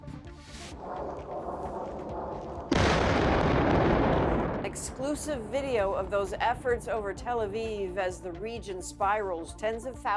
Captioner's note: bombing